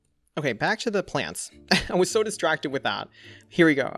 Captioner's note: chuckles